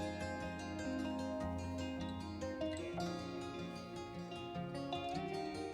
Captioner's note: haha